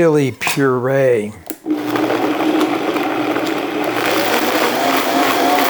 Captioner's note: blender whirring